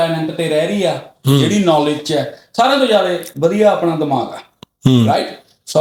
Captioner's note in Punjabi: ਗਲਾ ਸਾਫ਼ ਕਰਨ ਦੀ ਅਵਾਜ਼